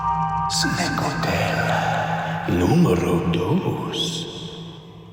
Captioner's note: voiceover